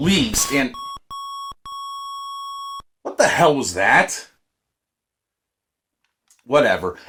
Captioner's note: annoying beeps